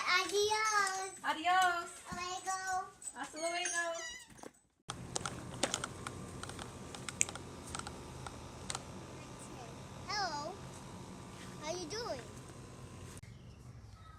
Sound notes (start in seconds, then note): 5.0 lawn mower clicking